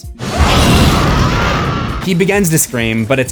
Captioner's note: screams